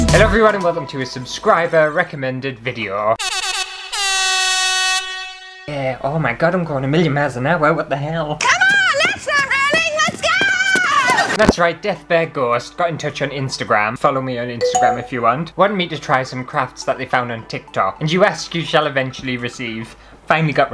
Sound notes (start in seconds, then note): 3.2 air horn!!